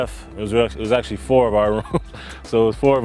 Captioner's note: laughs